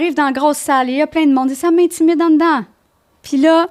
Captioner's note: in french